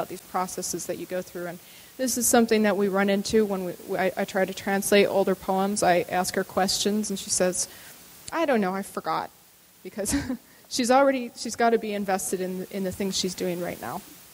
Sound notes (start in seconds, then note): 10.0 laughs